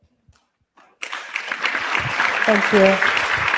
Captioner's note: applause